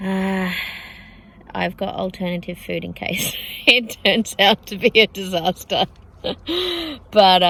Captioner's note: laughing